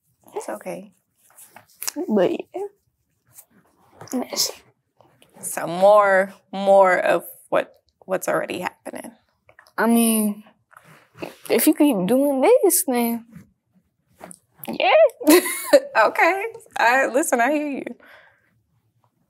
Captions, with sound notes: It's okay. But yeah, that’s it. So more of what's already happening. I mean, if you keep doing this then... Yeah. (Laughs) Okay, I— listen, I hear you.